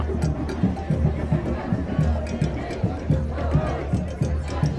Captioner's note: crowd chatter